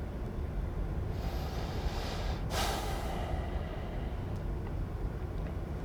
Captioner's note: sighing